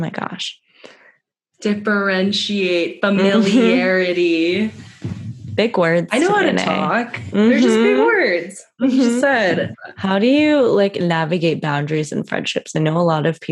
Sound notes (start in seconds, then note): 7.9 mhm!